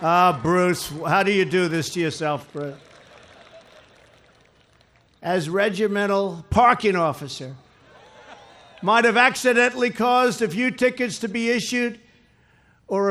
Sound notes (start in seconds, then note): 3.0 laughter